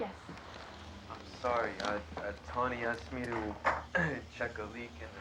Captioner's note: clears throat